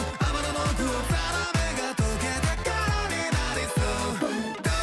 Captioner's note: boom!